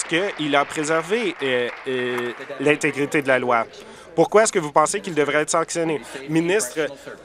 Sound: applause

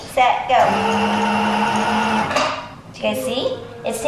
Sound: sewing machine whirring

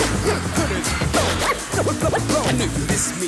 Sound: vinyl record spinning

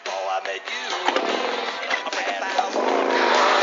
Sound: motorcycle starts

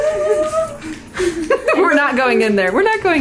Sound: laughing

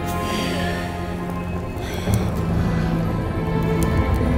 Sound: shimmering

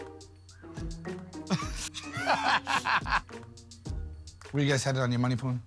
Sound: laughter

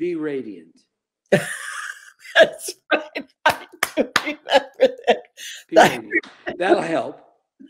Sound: laughing

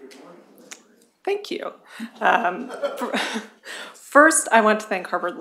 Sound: laughter

